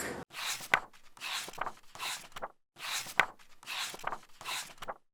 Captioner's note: pages turning